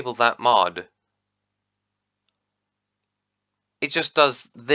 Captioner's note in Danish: long pause